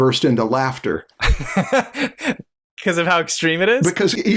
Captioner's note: laughter